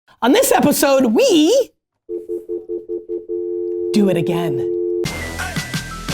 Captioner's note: dial tone; upbeat hip hop music